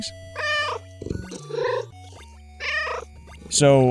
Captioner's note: meow